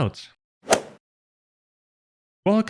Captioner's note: golf ball hit sound effect